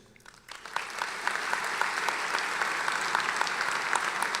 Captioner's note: applauding